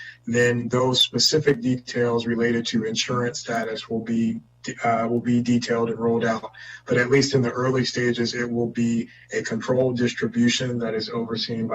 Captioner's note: spanish